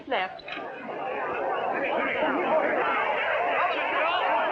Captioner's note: chattering